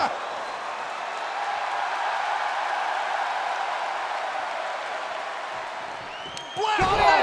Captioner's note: crowd cheering